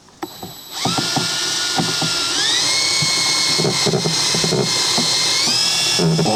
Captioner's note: motor whirring